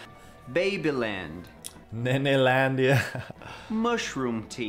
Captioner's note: laughs